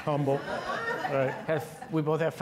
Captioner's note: all laughing